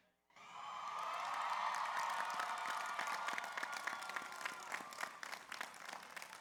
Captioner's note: audience cheers; audience applauds